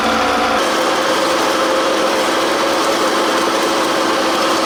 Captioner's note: machines whirring